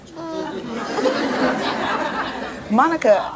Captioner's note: audience laughs